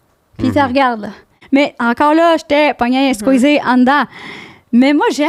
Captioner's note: in french